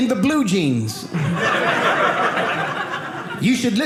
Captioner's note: audience laughing